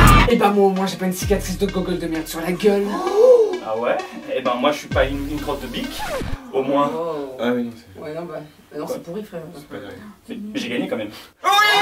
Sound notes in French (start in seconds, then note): 7.0 soupir de déception; 11.4 cris de joie